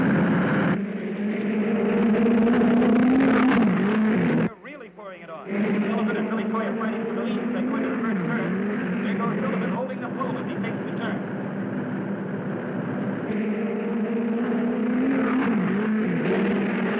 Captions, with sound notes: (cars whirring) They're really pouring it on. Sullivan and Billy Coy are fighting for the lead as they go into the first turn. Here comes Billy holding the flow as he takes the turn. (cars whirring)